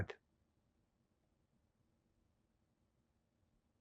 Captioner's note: pauses 8 seconds